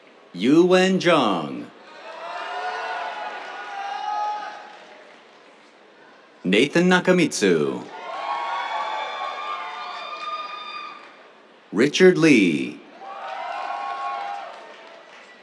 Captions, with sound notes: Yuwen Zhang. [CHEERS, APPLAUSE] Nathan Nakamitsu. [CHEERS, APPLAUSE] Richard Li. [CHEERS, APPLAUSE]